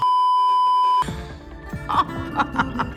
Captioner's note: beeeeeeeeeeeep; manicially laughing; giggles